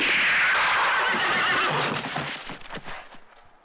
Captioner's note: horse neighing